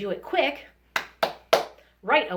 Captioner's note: claps hands